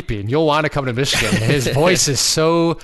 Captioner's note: laughing